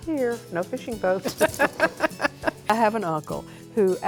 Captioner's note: laughs